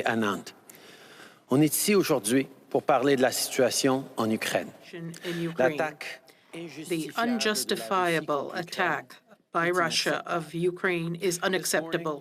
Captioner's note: speaking French